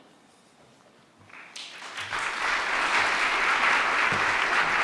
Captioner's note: audience clapping